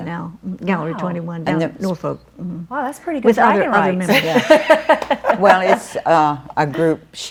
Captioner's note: laughs